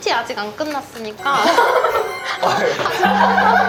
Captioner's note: having trouble breathing